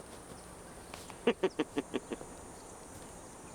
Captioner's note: chuckles